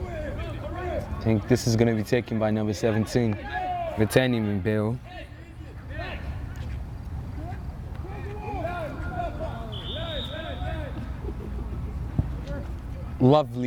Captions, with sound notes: I think this is gonna be taken by number 17, Gteni Mbeou. (whistle)